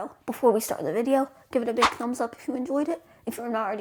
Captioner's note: woosh